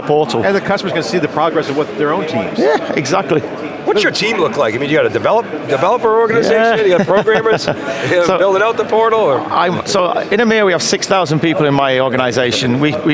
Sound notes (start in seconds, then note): 6.3 laughing